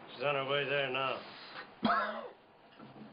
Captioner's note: coughs